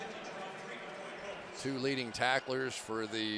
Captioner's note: pa announcement